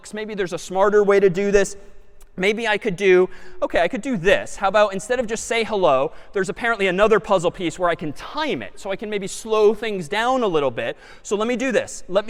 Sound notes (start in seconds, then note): none